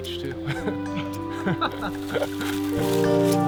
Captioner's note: both laugh; warm music continues